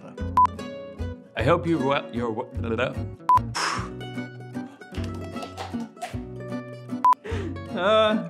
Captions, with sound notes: I hope you're, (mouth trilling) (sharp exhaling)